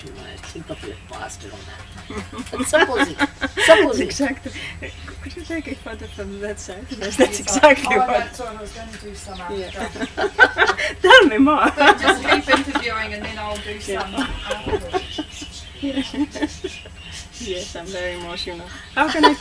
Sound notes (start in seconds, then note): 2.0 laughter